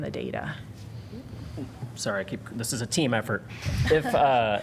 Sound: laughter

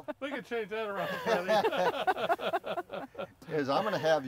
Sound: laughing

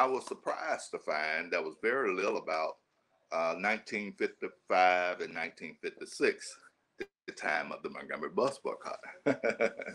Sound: chuckle

